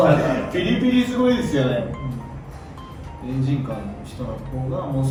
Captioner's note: seriously, gravely